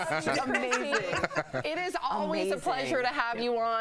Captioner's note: laughter